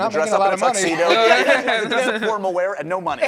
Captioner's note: laughing